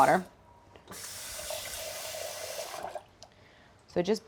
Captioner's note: faucet running